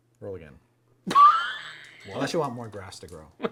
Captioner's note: laughter